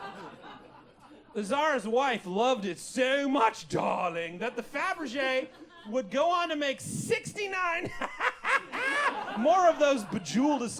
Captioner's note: ehehhehe